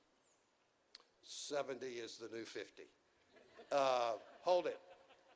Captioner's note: audience chuckles